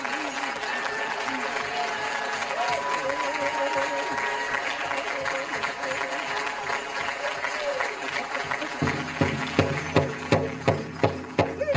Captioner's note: applause